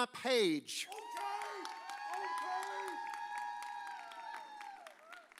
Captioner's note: audience cheers